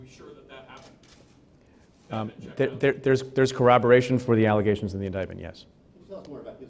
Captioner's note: stutters